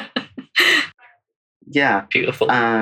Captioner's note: laughs